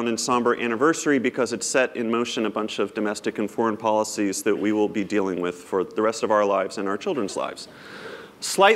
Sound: none

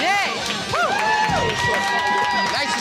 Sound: crowd cheering

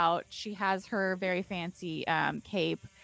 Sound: insect buzzing

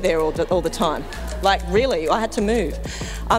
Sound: crowd laughing

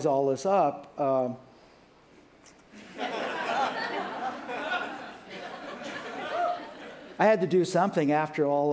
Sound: laughter

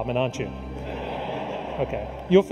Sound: audience laughs

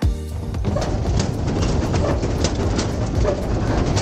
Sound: clattering metal bridge

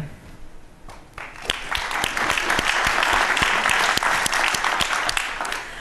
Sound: applause

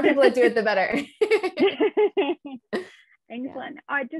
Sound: both laughing

